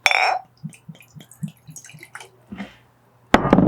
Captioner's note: sound of pouring alcohol